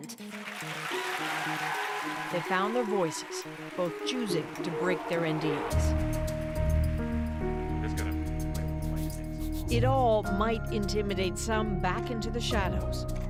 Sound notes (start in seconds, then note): 5.2 applause